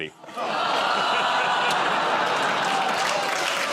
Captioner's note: audience groans; applause